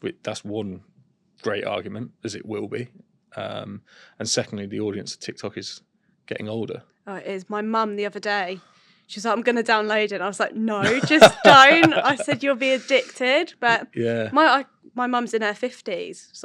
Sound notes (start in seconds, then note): 10.8 laughter